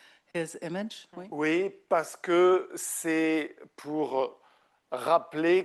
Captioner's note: speaking French